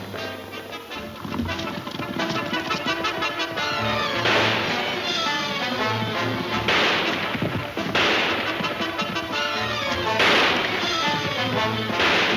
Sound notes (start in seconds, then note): 2.5 guns firing